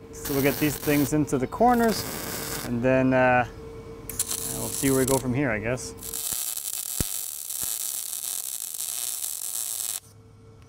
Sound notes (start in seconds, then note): 6.0 welding electrode sparking